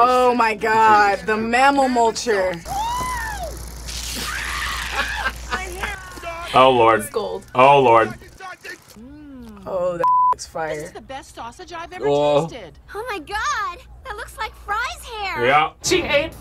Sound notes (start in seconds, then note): 2.6 Fry screams; 4.1 laughs